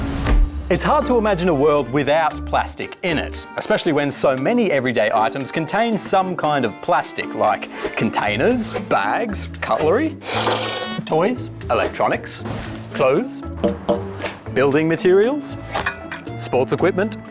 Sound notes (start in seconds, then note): 10.3 horn beeps